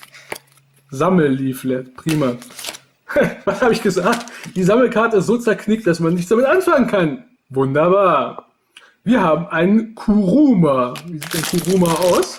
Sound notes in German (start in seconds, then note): 3.2 lacht